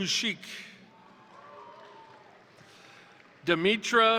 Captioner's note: crowd cheering; crowd applauding